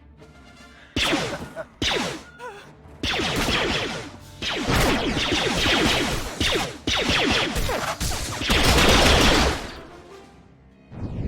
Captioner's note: Blaster rifle fire